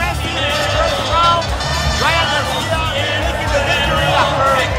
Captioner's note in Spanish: hablando inglés